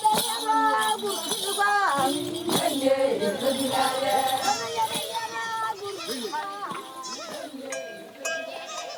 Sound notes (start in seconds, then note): 5.6 goats bleating